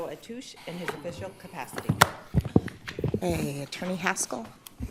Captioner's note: gavel pounds